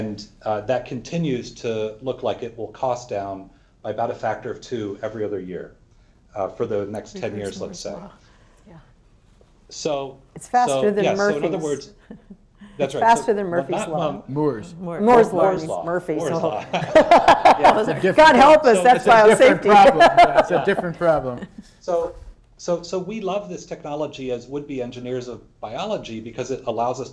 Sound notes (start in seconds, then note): 16.2 laughs